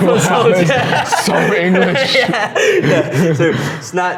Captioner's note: laughs